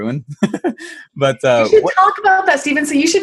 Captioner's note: laughs